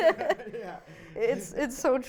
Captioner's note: laughing